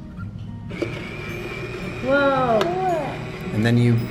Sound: machine whirring

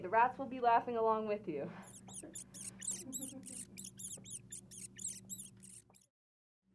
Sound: rats screeching

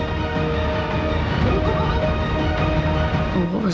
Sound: chortling

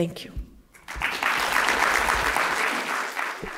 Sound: applause

